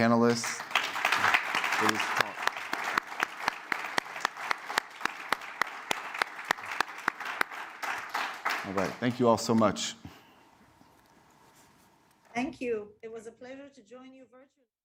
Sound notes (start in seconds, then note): 6.3 applause